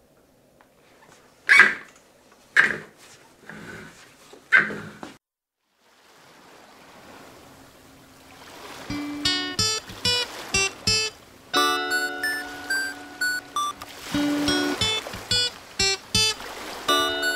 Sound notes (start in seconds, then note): 1.4 squeaky chair noise